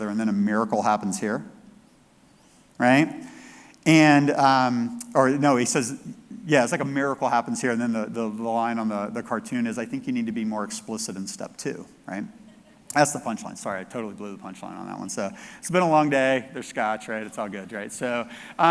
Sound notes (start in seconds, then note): 12.4 audience laughs